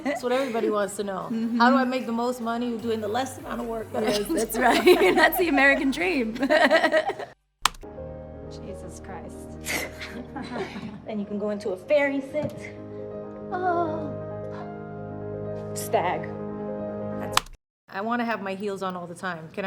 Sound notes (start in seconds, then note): 6.6 laughing; 9.7 laughs; 13.9 moans